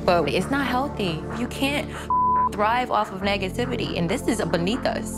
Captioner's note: beep